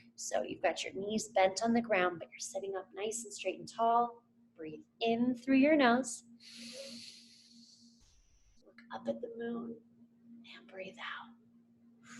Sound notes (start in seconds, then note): 6.4 inhales